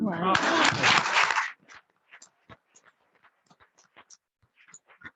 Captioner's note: attendees clapping